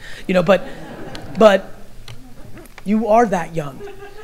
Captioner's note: audience laughter